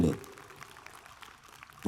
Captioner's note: applause